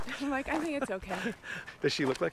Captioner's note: laughs